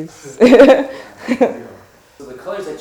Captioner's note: laughter